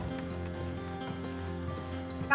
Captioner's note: spurs jangling